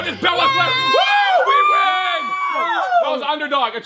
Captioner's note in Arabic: يهتفان